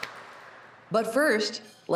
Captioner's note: cheers and applause